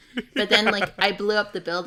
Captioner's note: laughs